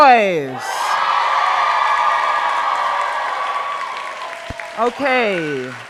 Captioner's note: crowd cheering